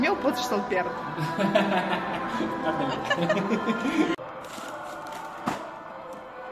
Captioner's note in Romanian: Râsete